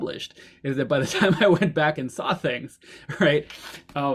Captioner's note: laughs